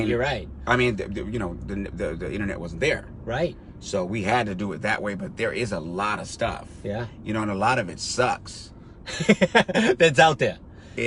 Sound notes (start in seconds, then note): 9.0 driver laughs